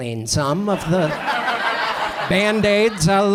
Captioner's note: audience laughs